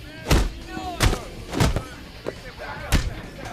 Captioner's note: kicks thudding